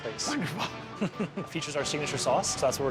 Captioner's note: laughs